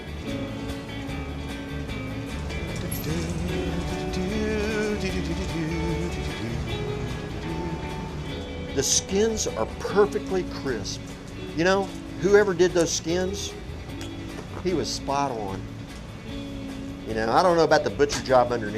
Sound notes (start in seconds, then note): 2.7 humming